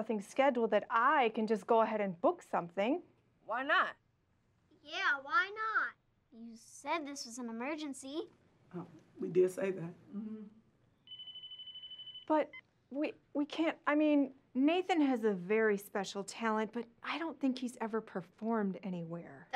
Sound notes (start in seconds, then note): 11.0 phone ringing